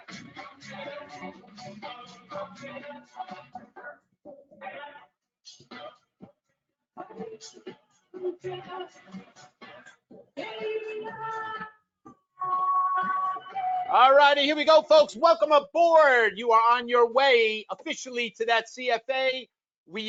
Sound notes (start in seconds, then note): 6.5 audio distorts